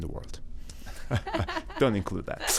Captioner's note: laughs